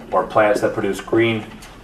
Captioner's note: none